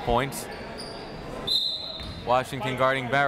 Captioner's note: whistle